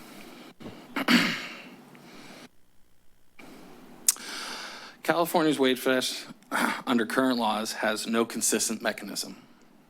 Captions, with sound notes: [clears throat] [clicks tongue] California's wage theft under current laws has no consistent mechanism